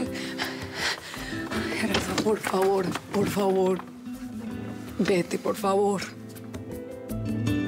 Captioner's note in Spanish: ruido al abrir la puerta